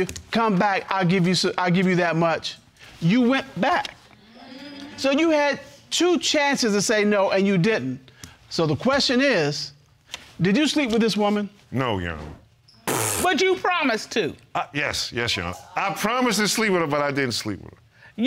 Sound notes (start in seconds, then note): 3.9 audience murmuring in agreement; 12.8 blows raspberry